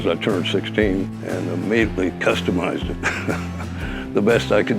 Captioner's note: laughs